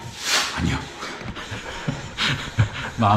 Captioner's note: laughs